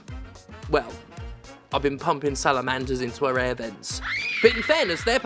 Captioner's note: scream